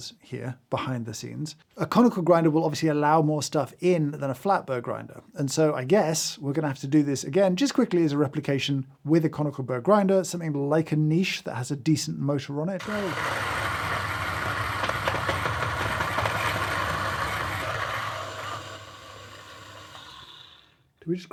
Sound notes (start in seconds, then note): 13.6 grinder whirring; 14.6 stone clacking; 17.8 grinder whirring